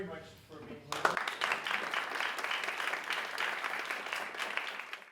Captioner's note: audience applauding